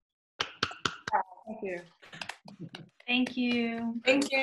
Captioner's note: claps